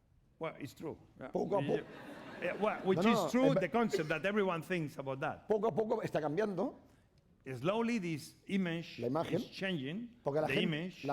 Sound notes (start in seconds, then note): 6.4 speaking spanish